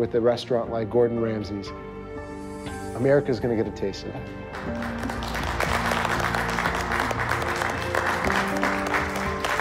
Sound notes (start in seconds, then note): 4.5 applause